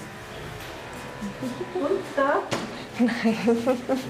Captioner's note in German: lacht